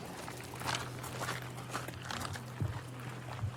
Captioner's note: footsteps crunching